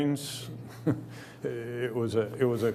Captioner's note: chuckles